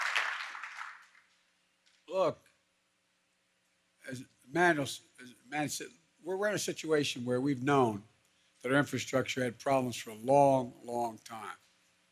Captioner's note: applause